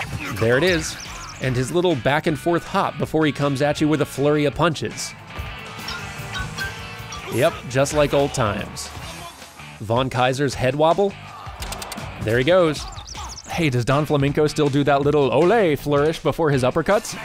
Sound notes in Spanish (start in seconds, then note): 5.7 silbidos de botes de un lado a otro